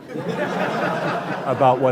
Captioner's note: laughing